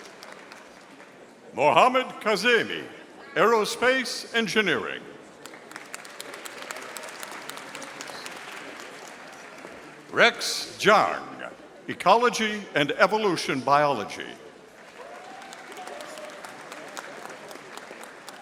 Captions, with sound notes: Mohammed Kazimi, Aerospace Engineering. (audience applauding) Rex Jang, Ecology and Evolution Biology. (audience applauding)